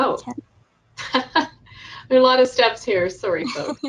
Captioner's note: laughs